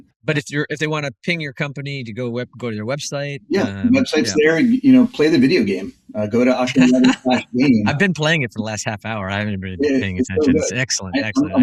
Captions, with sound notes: But if they want to ping your company, go to your website? Yeah, the website is there. And you know, play the video game. Go to octane11/game. [laugh] . I’ve been playing it for the last half hour. I haven’t been paying attention. It’s excellent. Excellent.